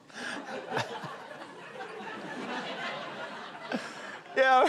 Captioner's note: laughter